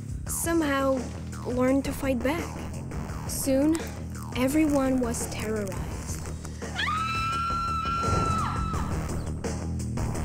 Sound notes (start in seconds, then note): 6.7 Adena screams